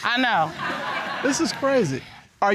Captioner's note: audience laughs